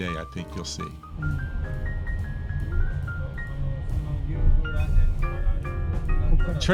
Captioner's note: bright jazz music continues; people chatter